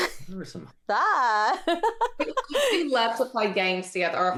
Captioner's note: laughing